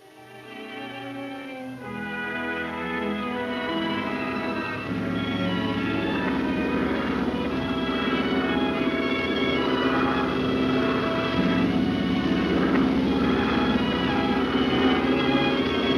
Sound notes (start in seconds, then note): 0.3 gentle music; 5.1 engine droning; 5.1 gentle music